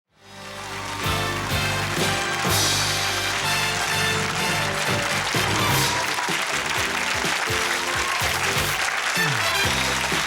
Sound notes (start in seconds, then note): 0.6 theme music playing; 2.2 audience applause